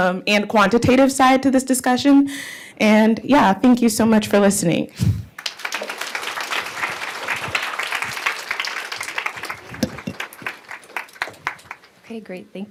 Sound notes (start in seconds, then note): 5.3 applause